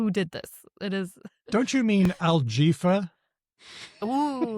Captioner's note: laughs